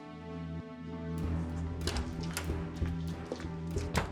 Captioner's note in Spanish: ruido al cerrar la puerta